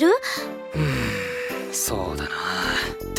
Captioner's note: exhales